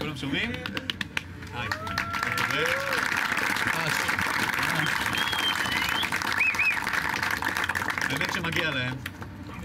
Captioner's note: applause